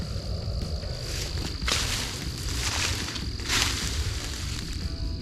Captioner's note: leaves rustling